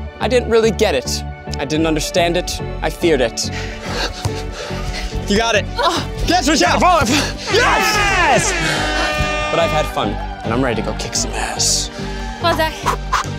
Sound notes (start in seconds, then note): 3.5 panting; 7.4 cheering